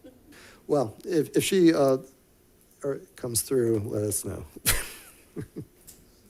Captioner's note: chuckles